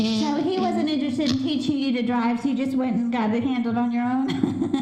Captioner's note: laughter